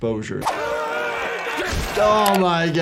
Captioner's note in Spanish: multitud gritando